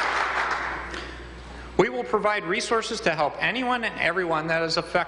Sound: applause

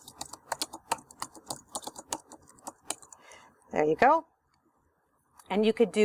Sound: and more typing; typing

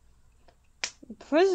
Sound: slaps knee

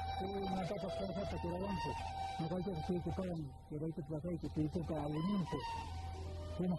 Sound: non-English narration

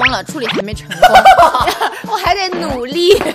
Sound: hahaha

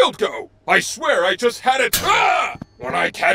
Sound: yells

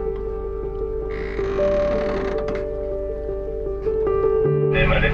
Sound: boom creaks; radio crackles

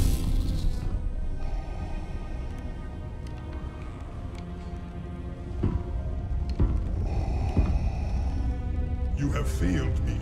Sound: mechanical breathing

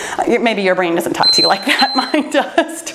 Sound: timer beeping

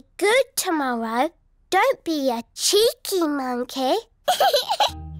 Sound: giggles

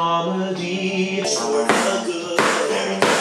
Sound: notebook slamming

